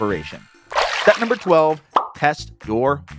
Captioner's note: water splashes